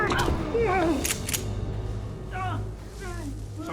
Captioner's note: thud, groans; guns click, man writhes on ground